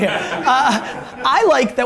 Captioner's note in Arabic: ضحك المجموعة